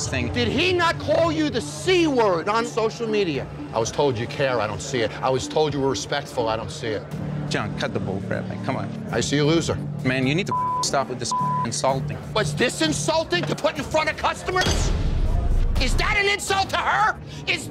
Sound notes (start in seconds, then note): 10.5 beep